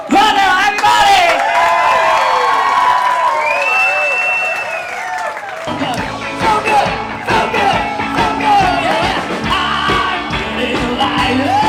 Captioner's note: cheering